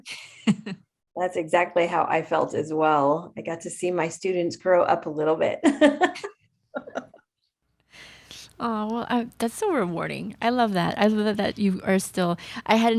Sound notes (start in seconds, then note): 6.8 laughs